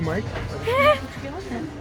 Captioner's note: laugh